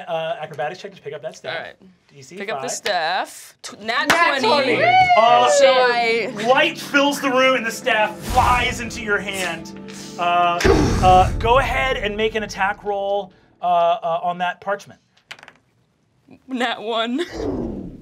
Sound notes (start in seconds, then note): 4.5 cheering; 10.6 dramatic booming; 15.2 dice clacking